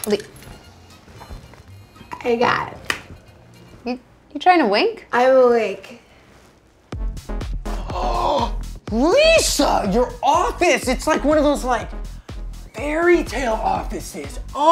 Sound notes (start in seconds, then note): 2.5 slurring; 7.7 gasps